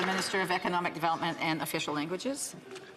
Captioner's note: applause